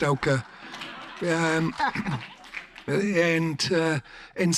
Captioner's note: audience laughs; audience claps